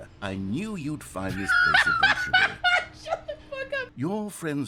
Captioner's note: laughing